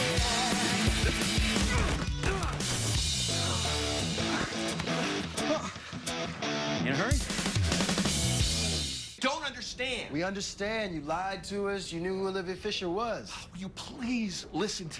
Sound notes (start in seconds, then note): 1.5 grunting; 3.2 gasps